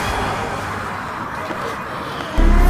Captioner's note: tense danger music; light footsteps; sirens wailing